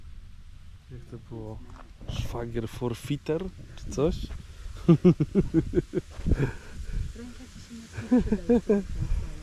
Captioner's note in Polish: śmiech